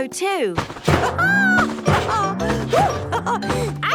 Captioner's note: laughs